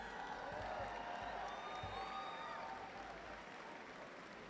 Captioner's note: cheering